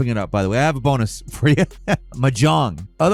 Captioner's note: chuckles